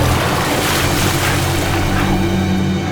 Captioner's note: panting